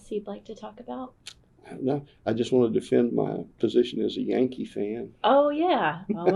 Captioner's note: laughs